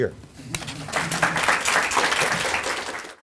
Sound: applause

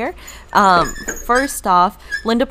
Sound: wheel squeaking

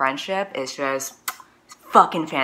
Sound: kiss

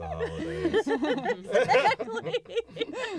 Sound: laughter

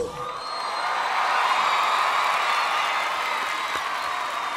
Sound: audience cheering

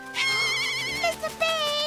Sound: squawking

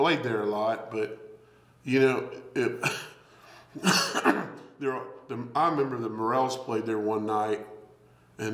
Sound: coughs

